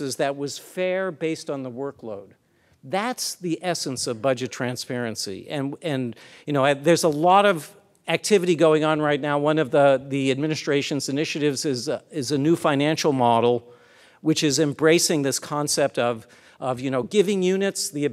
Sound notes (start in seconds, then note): none